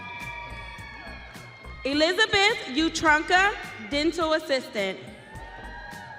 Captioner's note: audience cheering